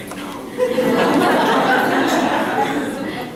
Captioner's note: laughter